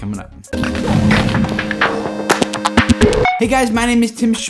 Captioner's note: electronic sounds